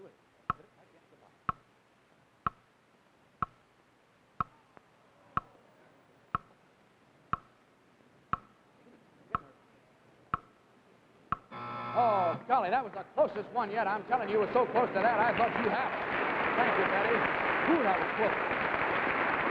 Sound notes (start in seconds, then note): 11.5 buzzer; 16.0 audience cheers